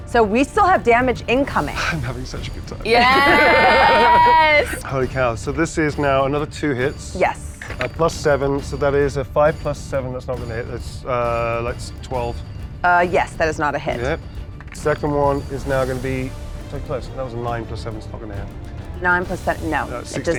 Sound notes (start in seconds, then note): 2.8 group laughs